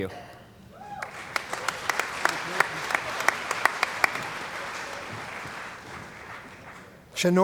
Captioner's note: cheering & Applause